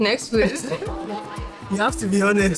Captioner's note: crowd laughing